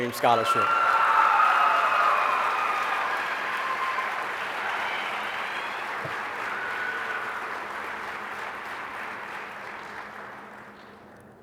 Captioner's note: applause